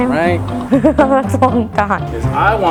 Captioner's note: laughing